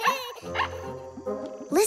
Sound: laughing; barking

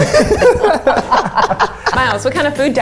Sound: all laughing

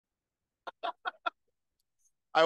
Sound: laughing

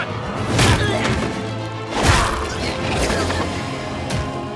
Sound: creatures grunting

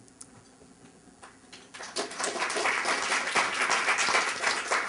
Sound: applause

